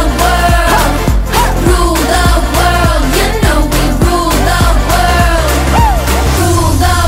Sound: woo

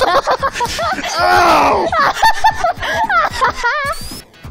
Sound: laughs; cackles

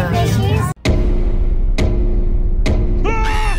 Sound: glass thumping; fishes shouting

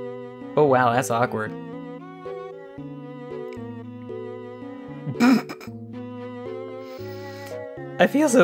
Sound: snickers some more

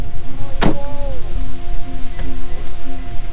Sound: door slams

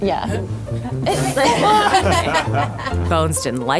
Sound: laughing

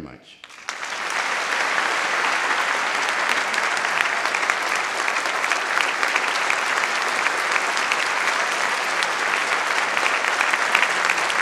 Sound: applause

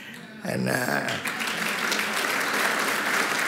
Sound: applause

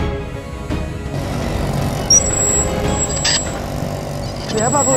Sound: rickshaw brakes

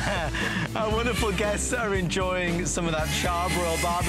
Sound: laughter

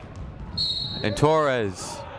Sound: whistle blowing

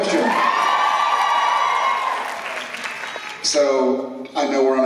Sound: applause

